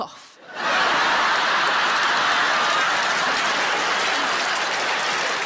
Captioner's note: audience laughs and applauds